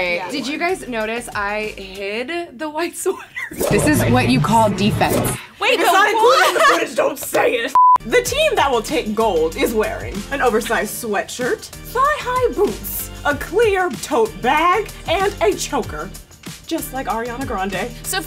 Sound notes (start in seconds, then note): 7.8 beeps